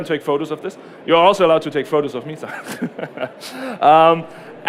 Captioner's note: laughter